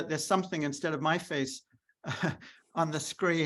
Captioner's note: chuckles